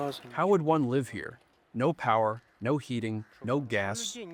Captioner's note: through translator